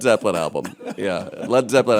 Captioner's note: laughter